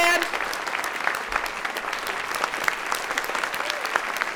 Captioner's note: audience clapping